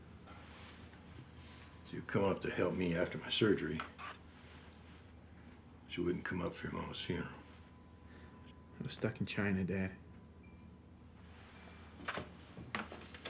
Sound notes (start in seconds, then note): none